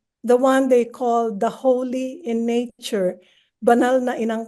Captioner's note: speaks in foreign language